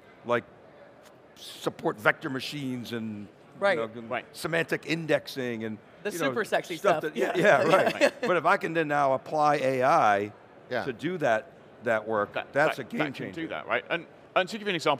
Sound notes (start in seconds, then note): 7.2 laughing